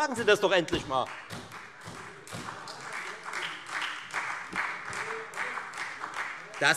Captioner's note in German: Beifall Freie Demokraten und SPD